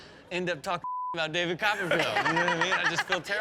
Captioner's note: beep; Chanel laughing